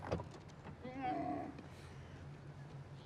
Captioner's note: camel grunts